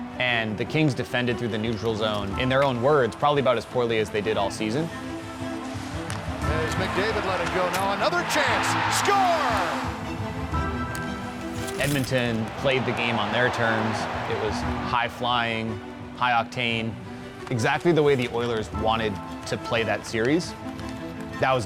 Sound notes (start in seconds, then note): 9.4 crowd cheering; 9.8 classical music